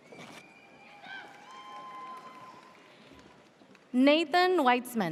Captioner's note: audience cheers